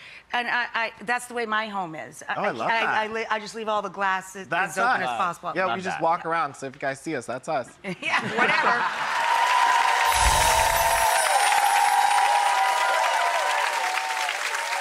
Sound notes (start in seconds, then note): 8.7 audience applauding